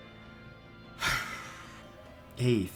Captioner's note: sigh